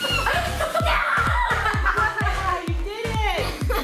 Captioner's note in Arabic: صراخ لعوب